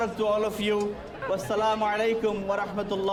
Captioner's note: non-english speech